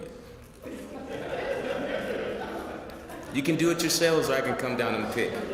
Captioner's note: laugh